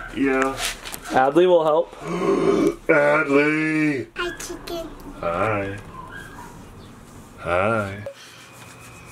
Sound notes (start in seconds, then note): 2.0 gasps